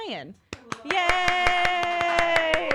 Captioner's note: applause